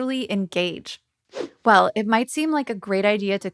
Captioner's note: logo whooshing